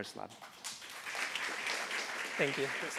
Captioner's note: applause